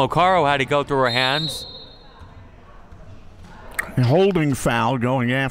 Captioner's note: referee blows whistle